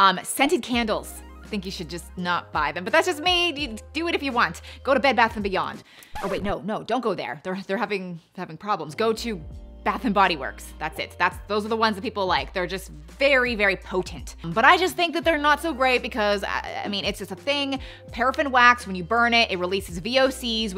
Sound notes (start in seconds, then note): 6.1 record scratches